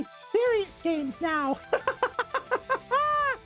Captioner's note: laughter